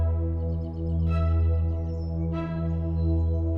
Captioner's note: birds chirping